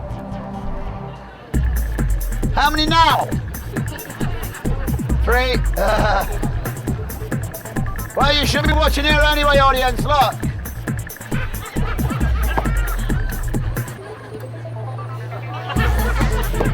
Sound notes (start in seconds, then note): 6.2 chuckles; 7.0 upbeat music continues; 11.6 audience laughing; 11.6 upbeat music continues